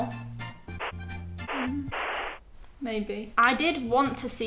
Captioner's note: upbeat music; static humming